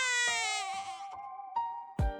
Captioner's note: crying baby